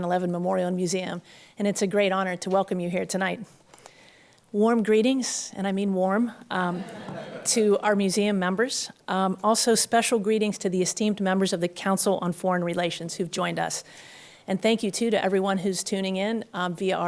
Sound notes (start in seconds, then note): 6.7 laughter